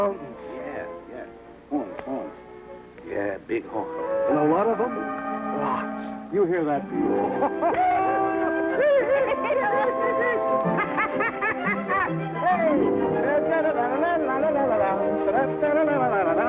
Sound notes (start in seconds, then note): 7.1 Jingo and Pierre laughing; 12.9 Pierre humming